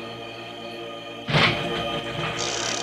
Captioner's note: crash